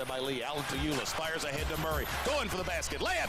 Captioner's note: cheering